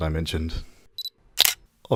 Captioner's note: shutter sound